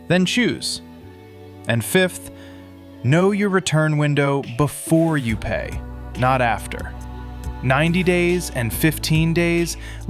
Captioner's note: thoughtful